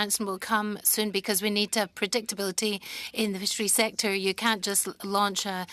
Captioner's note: speaking French